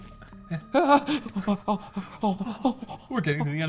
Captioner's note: stuttering